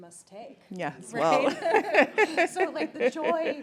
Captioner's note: laughs